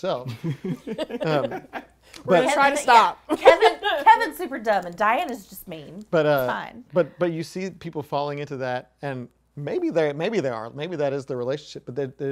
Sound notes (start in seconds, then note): 0.4 laughing; 3.4 chuckles